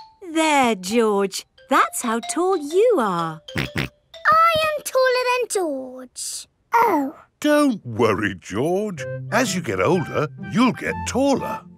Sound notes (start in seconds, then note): 3.2 snorts